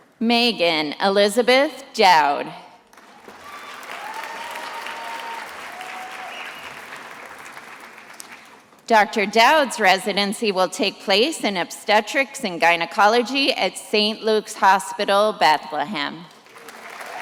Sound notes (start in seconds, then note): 2.9 attendees applauding